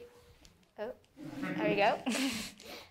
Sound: laughs

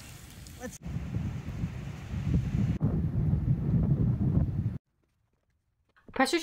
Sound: wind

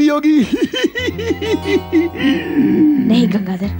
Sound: giggles

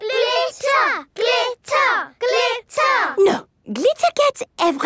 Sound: chanting

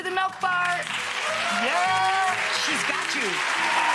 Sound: audience applause

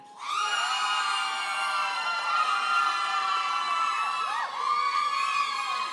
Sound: audience cheers and applauds

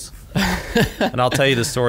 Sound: laughs

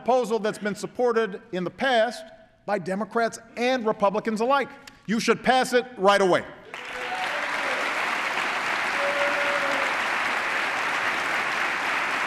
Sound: applause

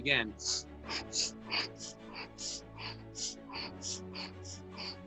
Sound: breathing loudly; upbeat music

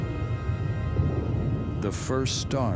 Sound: explosion blasting

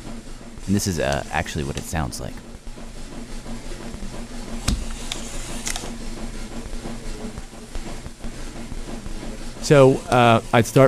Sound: whirring noise

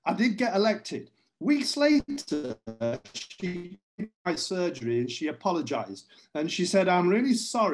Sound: sound distorts

